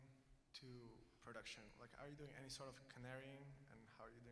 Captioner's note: speaking away from microphone